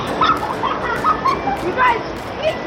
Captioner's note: girls laugh